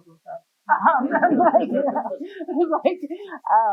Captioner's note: laughter